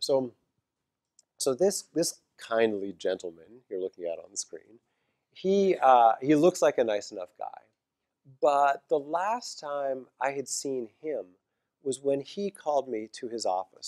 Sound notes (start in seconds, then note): none